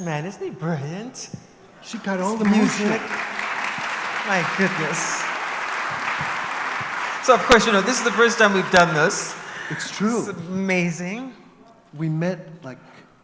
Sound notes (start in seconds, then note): 2.3 applause; 4.5 laughs